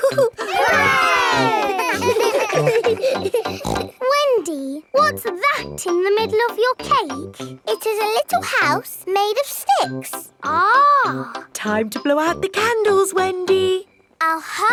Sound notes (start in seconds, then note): 0.0 chuckles; 0.0 laughing; 1.9 snorts